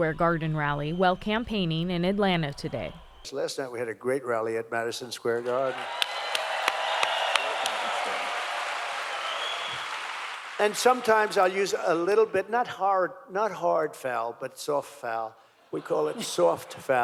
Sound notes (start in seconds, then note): 5.4 cheering